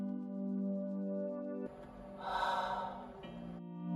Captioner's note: sigh